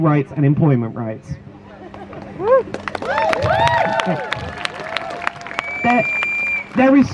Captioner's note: crowd Cheers